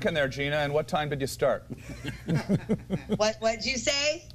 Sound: laughter

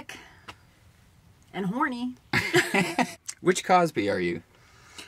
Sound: both laugh

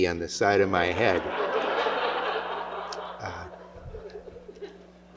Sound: laughter

